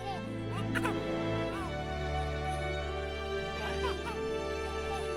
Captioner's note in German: Baby kichert glücklich